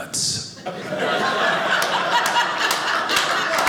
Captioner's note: audience laughing; audience applauding